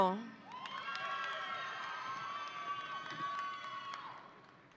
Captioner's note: audience applauding